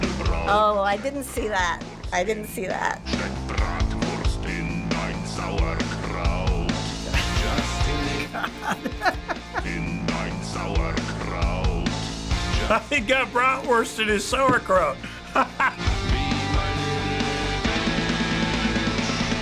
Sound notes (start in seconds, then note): 7.1 chuckling; 7.1 laughs; 12.3 laughs